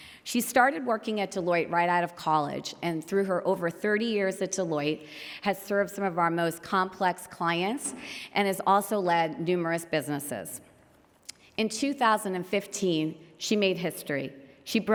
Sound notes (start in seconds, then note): none